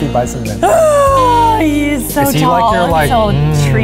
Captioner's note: gasps